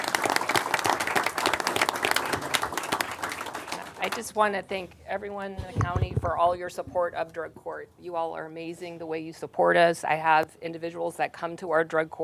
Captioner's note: applause